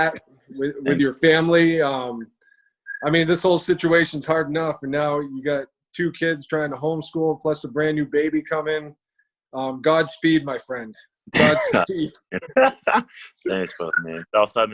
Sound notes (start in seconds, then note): 11.4 laughs